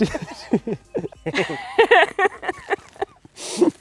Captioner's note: laughing